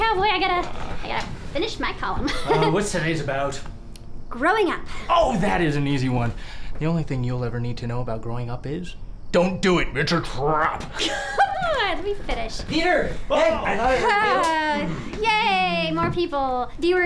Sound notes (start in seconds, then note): 2.2 laughing; 10.9 laughing; 12.9 voiceover; 14.6 sighing